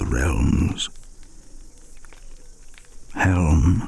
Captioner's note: fire crackling and night insects buzzing